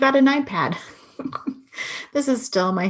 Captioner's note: laughing